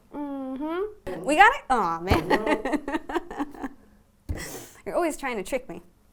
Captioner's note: laughter